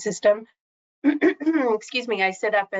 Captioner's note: clears throat